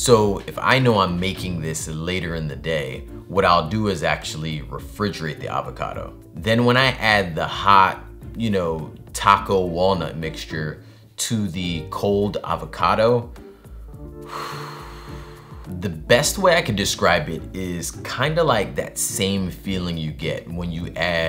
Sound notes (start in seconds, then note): 13.4 breathes heavily